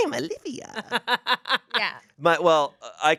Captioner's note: laughs